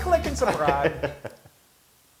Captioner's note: laugh